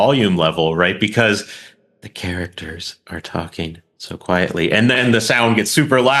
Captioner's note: in a soft voice; in a loud voice